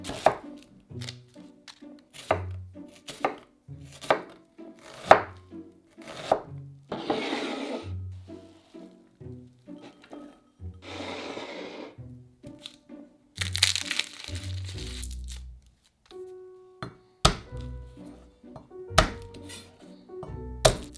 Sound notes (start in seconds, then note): 0.0 knife chopping; 13.4 garlic paper rustling; 17.2 knife smashing